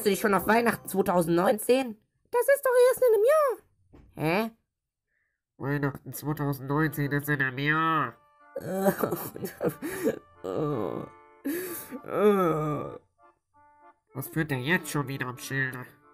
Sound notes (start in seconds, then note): 8.6 cries